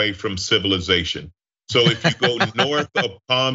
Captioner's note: laugh